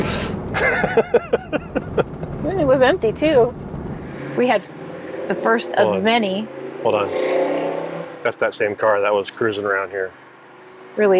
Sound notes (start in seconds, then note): 0.4 laughing; 7.7 car revving